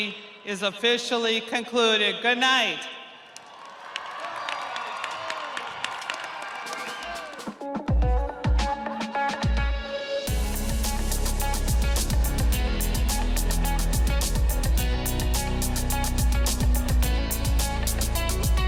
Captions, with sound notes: The Winter 2021 Commencement Ceremony is officially concluded. Goodnight. (audience applauding) (audience cheering) (upbeat jazzy music)